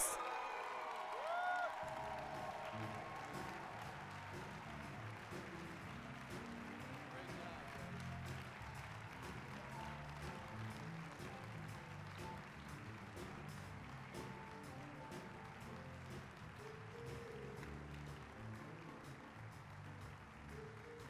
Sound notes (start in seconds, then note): 0.2 applause, cheering; 8.4 applause